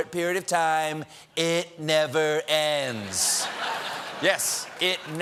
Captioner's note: laughter